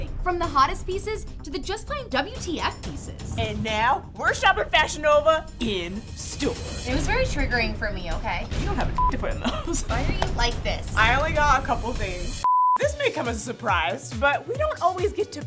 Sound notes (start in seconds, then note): 8.9 beep